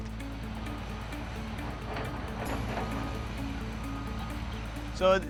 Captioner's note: flowing water and machinery engines